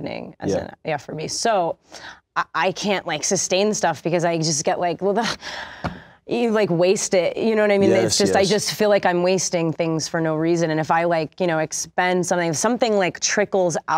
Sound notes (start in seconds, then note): 4.9 stammers